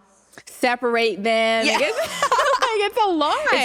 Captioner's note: laughter